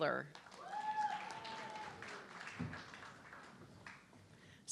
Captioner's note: audience clapping